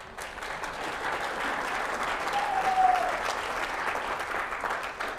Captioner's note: applause, cheers